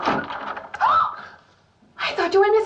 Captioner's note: gasps